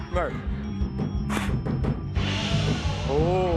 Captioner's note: spits